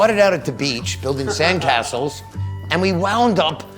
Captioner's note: laughing